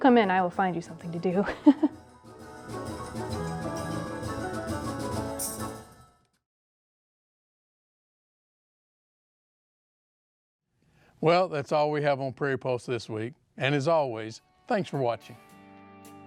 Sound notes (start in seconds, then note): 1.4 laughs; 3.4 old-fashioned calliope music